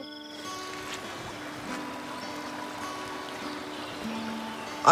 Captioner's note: laughing; water running